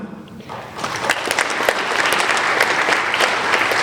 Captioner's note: applauding